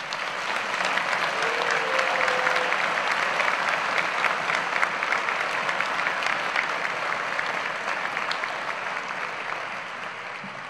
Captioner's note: applause